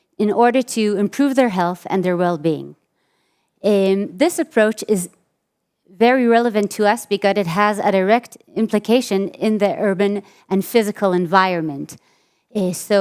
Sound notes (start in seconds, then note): none